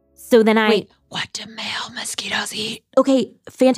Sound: whispers

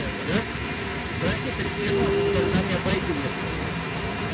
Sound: thunderstorm

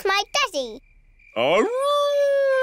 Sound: howling

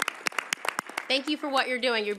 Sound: applause

